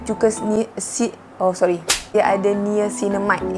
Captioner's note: slap sound